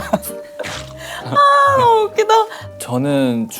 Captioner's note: nom nom